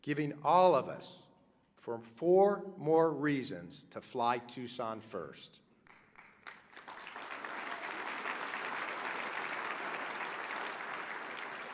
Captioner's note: applause